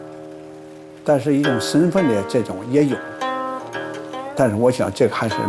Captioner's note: speaking Chinese: English translation on screen